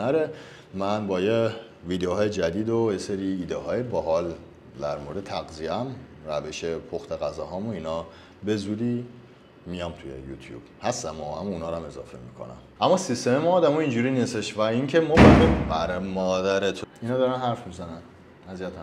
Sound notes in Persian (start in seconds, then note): 15.1 صدای کوبیدن در